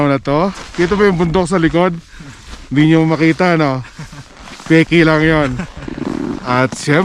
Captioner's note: was laughing